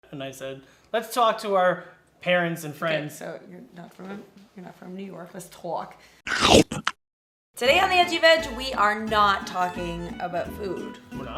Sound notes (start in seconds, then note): 6.2 chomping